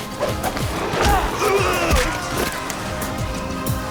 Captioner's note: grunting